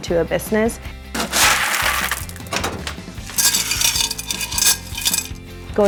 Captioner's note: rocks being scooped up